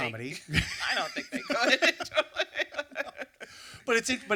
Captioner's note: laughing